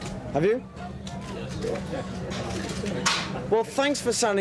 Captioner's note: camera shutters clicking